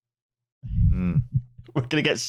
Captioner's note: stomach growls loudly; laughing